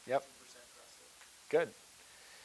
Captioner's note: person speaking quietly